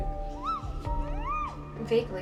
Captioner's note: squealing